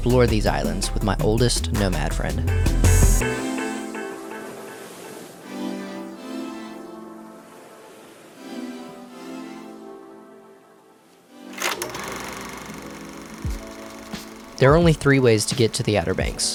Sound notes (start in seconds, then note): 2.4 smooth mellow music; 2.4 water sloshing; 11.5 camera shutter clicks; 11.6 film roll rattling